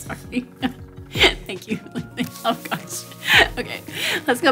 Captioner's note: nervous laughing